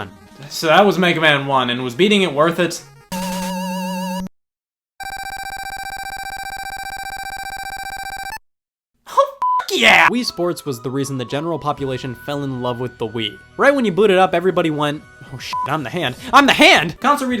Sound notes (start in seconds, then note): 5.0 electronic beeps; 9.4 beep; 15.5 beep